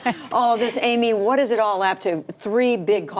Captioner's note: laughter